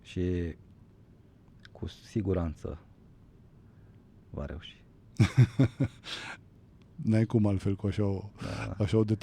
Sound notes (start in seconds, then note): 5.1 laughter